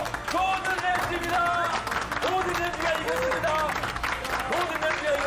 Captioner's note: everyone stands up and applauds